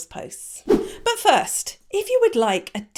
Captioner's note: letters whooshing